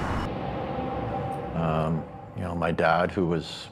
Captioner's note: ominous echo